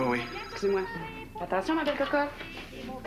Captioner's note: Le téléphone sonne